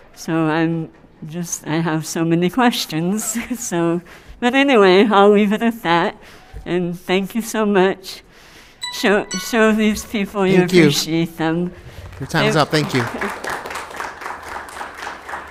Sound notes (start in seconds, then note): 8.8 timer chimes; 14.5 applause